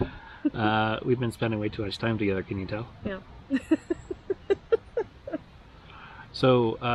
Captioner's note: laughter